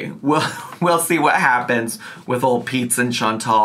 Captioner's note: chuckles